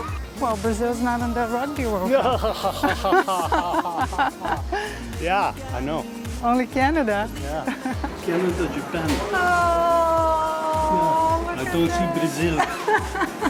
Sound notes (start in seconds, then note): 1.8 laughs